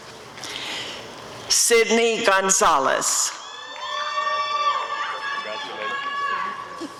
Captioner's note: applause and cheering